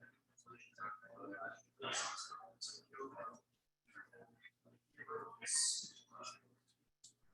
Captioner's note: people chattering indistinctly continues